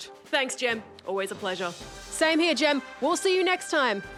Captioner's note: none